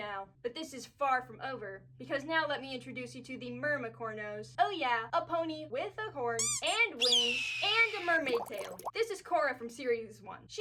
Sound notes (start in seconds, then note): 6.4 squeak; 7.0 hawk call; 8.2 bubbles